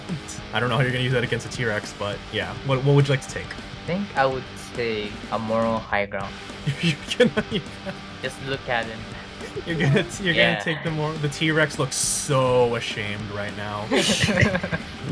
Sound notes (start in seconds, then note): 9.1 laughs in flustered GM; 13.8 laughs